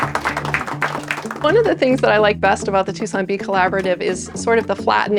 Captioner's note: clapping